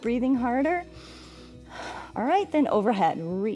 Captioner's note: inhales and exhales